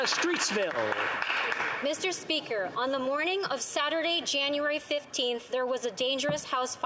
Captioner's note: applause